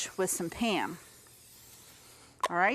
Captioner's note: spraying